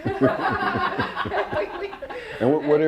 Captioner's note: laughs